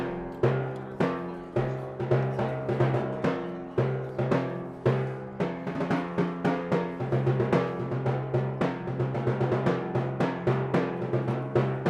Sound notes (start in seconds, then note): none